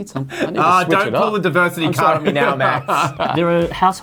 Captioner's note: laughs